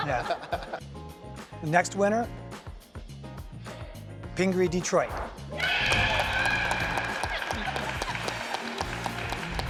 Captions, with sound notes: (laughing) Next winner, Pingree Detroit. (applauding).